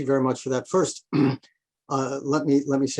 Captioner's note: clears throat